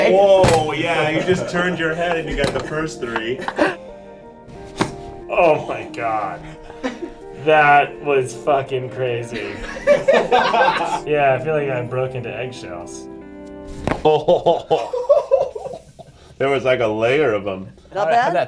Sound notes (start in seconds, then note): 9.3 laughter; 13.8 bones cracking